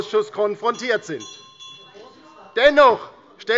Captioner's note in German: Anhaltende Unruhe – Glockenzeichen des Präsidenten